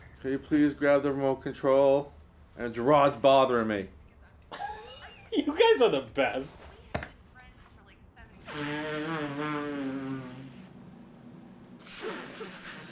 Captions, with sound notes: - Can you please grab the remote control? And Gerard's bothering me. - (laughs) You guys are the best. (nose blowing)